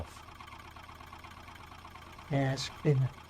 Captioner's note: sound of tractor engine